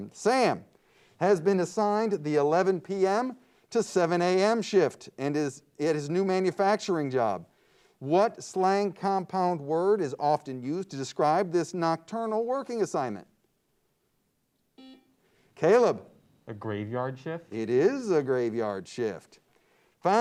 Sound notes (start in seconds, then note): 14.8 buzzer beeps